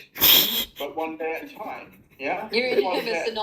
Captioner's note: laughter